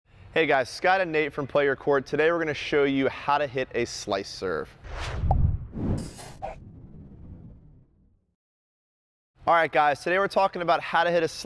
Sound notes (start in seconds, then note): 4.8 whoosh; 5.2 pop